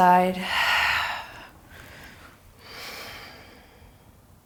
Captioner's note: deep breaths